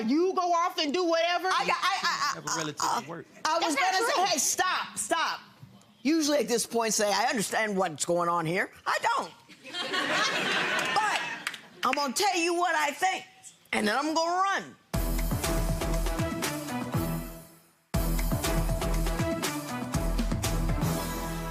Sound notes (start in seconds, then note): 9.6 audience laughing